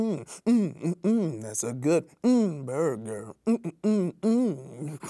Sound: hums

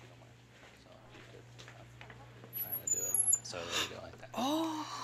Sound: men chat quietly

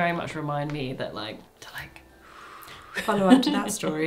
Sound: exhales

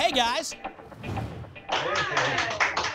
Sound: whoosh; applause

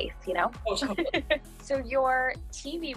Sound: laughs

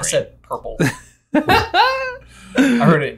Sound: laughing

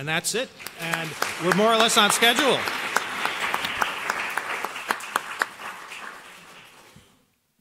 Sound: applause

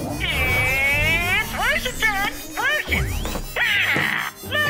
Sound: computer Voice

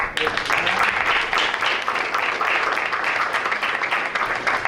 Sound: applause

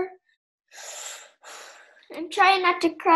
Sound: breathes heavily

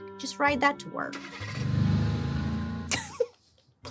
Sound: car vrooms; giggles

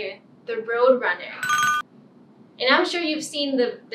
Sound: ringing bell

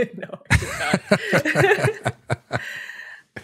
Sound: laughter

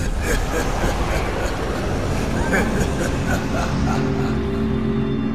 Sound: evil laugh

